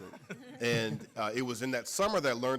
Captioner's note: audience laughing